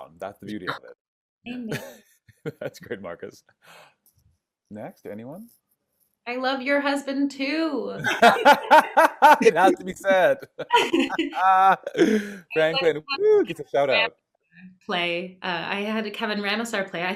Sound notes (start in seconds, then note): 7.9 laughing